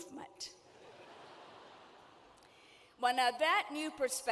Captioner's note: audience laughing